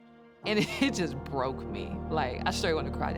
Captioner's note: chuckling